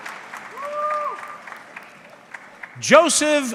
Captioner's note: audience clapping